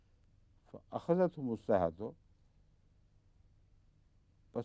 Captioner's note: Arabic